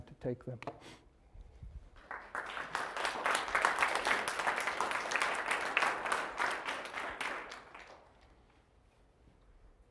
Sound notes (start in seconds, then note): 1.9 applause